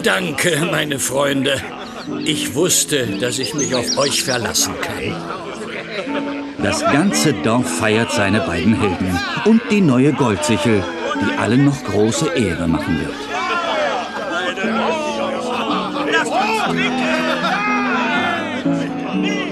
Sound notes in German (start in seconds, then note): 0.0 gelächter; 15.0 gelächter